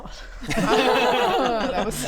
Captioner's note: nervous laugh